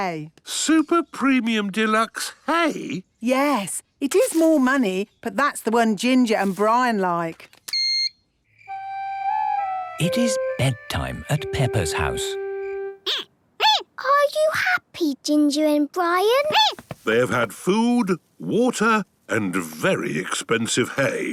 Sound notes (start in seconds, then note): 7.8 beep!; 12.7 squeaking